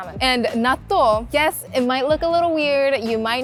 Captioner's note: none